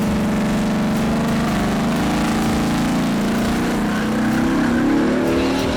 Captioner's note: car engine revving